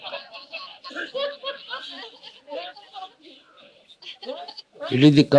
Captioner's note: laughter